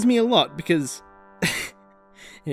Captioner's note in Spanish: risa